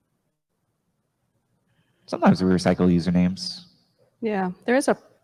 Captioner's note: silence